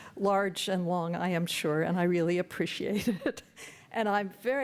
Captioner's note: chuckles